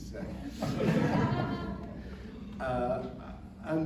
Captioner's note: laughter